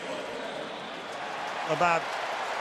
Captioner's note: cheering